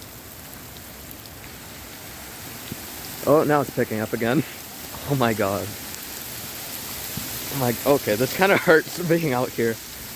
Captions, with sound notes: [Hail gets louder] Oh, now it's picking up again Oh my god. Okay, this kind of hurts, being out here [laughs]